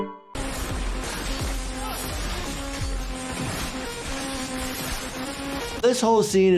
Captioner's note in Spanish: armas cortando